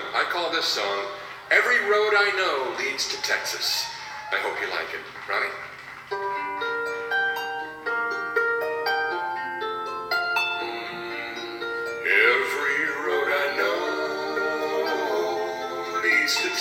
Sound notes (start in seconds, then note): 6.3 gentle music; 10.8 humming